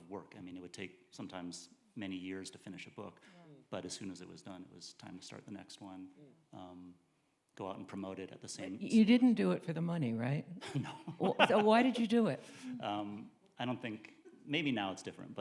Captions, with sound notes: I mean, it would take sometimes many years to finish a book, but as soon as it was done, it was time to start the next one, go out and promote it at the same. You didn't do it for the money, right? No. (laughing) So why did you do it? I don't think, maybe now it's different,